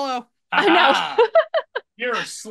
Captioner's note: laughs